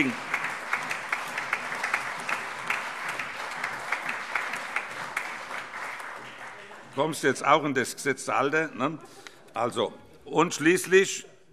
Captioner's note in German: Allgemeiner Beifall